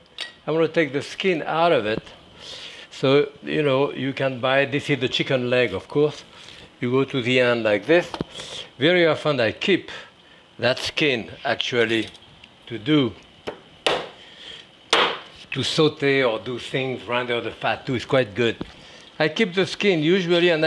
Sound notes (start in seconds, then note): 15.0 knife banging